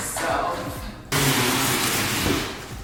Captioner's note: loud scrapping